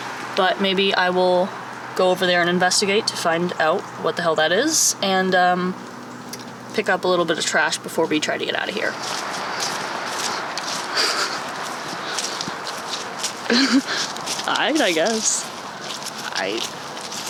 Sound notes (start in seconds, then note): 13.4 laughs